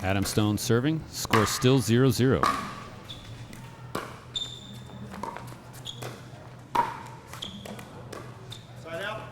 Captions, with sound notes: Adam Stone serving, score still 0-0. (ball being hit) (shoes squeaking)